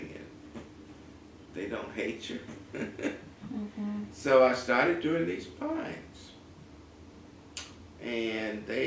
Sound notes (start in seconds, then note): 2.9 laugh